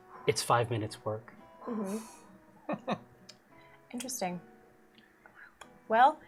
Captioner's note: laughs